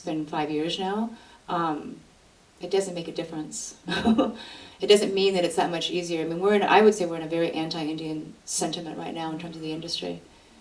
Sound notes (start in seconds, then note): 3.9 laughs